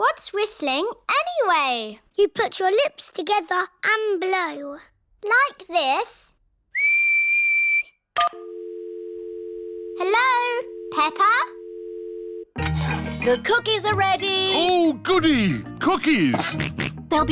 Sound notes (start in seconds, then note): 6.7 whistles; 8.2 dial tone beeping